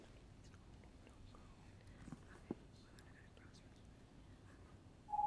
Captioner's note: competitors whispering